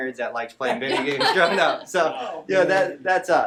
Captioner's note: laughing